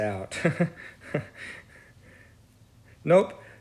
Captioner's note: laughs